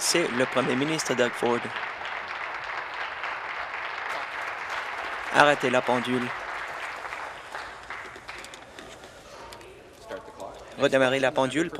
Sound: applause

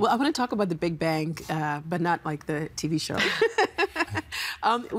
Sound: laughing

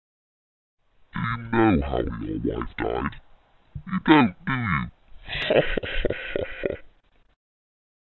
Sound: demon voice

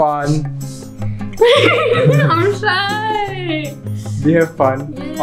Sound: giggles

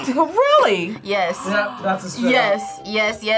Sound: gasps

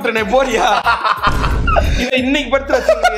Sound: laughs

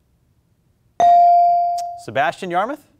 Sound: buzzer pings

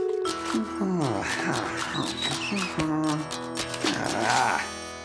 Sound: humming

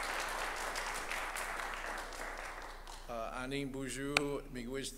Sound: applause

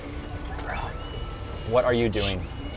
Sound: whispering

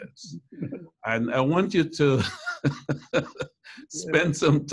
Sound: laughs

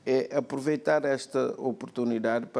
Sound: speaking portuguese

